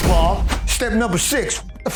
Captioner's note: phone ringing